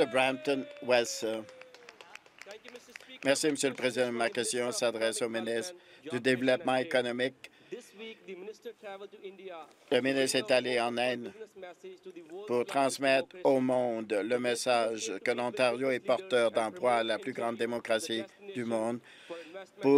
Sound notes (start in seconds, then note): 4.0 applause